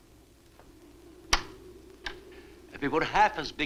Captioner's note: lock clacks